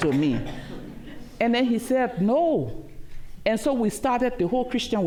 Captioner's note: laughter